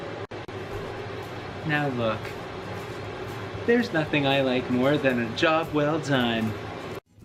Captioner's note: fan turns on in background ruining everything; fan still going in background